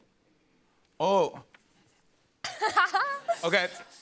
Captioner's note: laughs